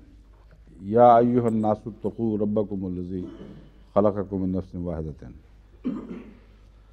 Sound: Arabic

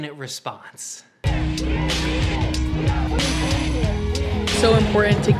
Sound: chanting and yelling

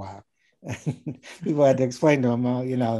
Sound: laughing

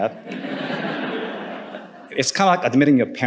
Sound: audience laughing

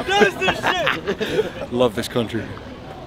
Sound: laughs

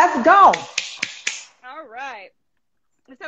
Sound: clapping

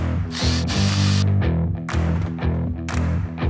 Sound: saw revving

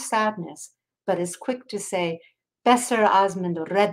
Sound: speaking in foreign language

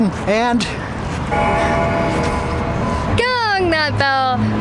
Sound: bell ringing

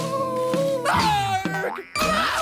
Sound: screaming

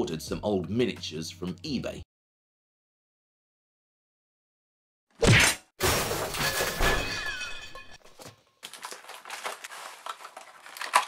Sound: crash, tinkle

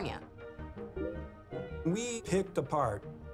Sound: notification dinging

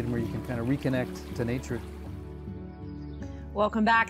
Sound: birds chirping

